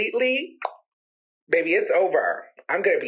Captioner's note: clicks tongue